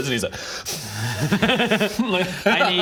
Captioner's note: patronising giggle